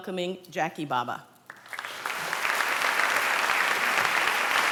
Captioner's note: applause